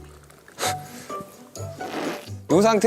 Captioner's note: glug, glug, glug; slurp